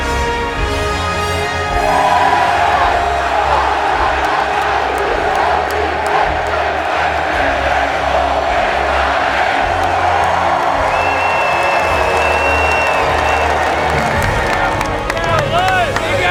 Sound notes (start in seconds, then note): 1.9 cheering